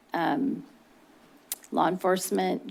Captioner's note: clicks tongue